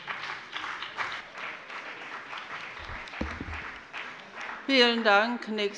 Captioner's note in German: Beifall bei dem BÜNDNIS 90/DIE GRÜNEN und der CDU